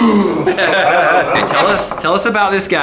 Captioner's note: grunts loudly; laughter